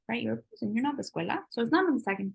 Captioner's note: spanish